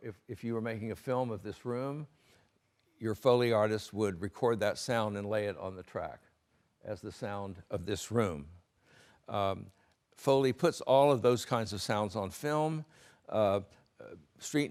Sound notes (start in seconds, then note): none